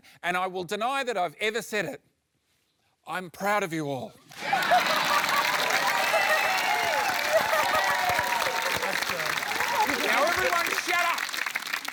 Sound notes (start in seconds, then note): 4.3 cheering, applause